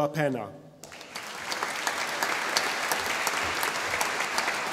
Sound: audience applauding

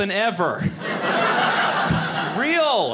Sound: audience laughing

